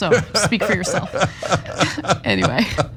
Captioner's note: laugh